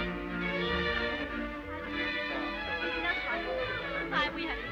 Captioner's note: people chattering